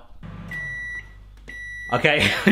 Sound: microwave beeps

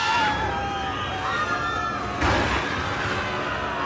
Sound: all screaming

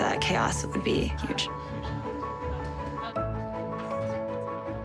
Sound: chatter

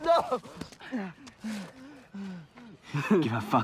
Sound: Miklos pants

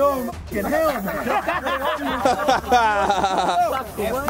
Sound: group laughing

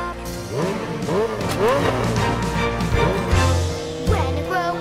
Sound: motorbike revs

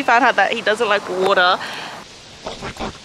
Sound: water

